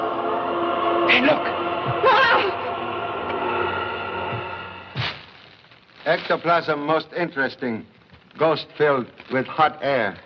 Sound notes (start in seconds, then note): 2.2 gasps